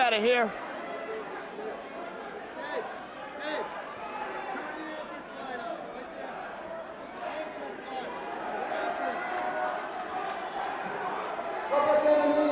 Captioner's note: crowd chatter